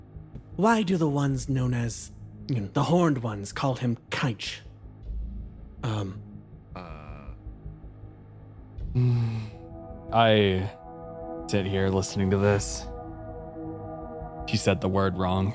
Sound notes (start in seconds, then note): 8.9 Straga Sigh